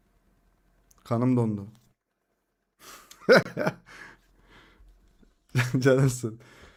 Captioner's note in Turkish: kahkaha